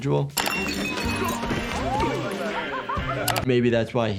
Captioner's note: glass clatters